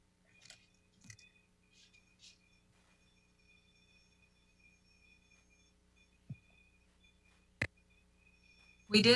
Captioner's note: muted